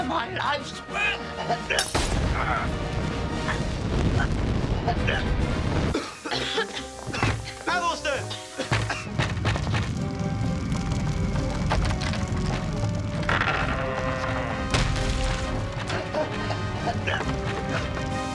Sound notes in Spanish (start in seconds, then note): 2.0 tintineo de vidrio; 5.9 Aruna y William tosiendo; 11.1 traqueteo de la puerta